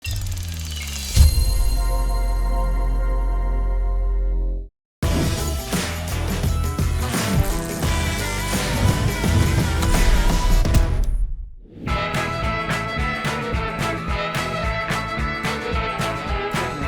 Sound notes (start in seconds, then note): 0.0 mechanical whirring; 0.1 bright chiming; 5.0 upbeat music